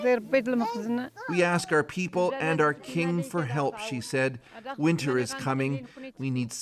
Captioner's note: speaking alternate language